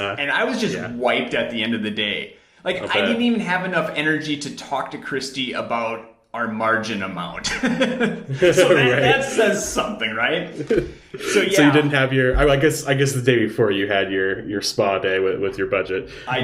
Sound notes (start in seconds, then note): 7.4 laughing